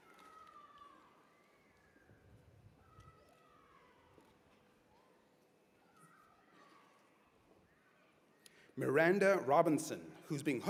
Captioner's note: cheers and applause